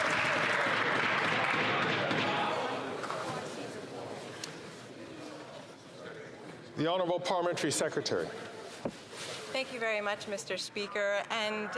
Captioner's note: some Applause